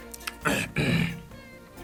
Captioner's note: clears throat